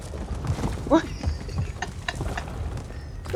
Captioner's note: laughs